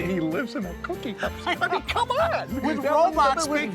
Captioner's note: laughing